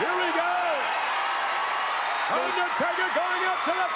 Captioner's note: crowd cheers